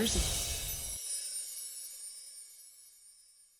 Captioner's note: chimes tinkling